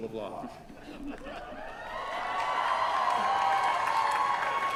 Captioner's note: cheering